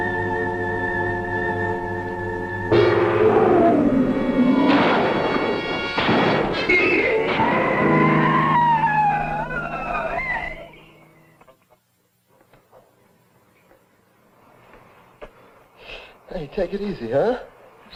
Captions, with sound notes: (monster growling) (gun firing) (monster screeching) - Hey, take it easy, huh?